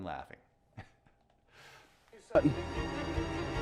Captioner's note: laughs; intense string music